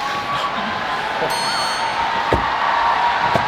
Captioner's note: stumbling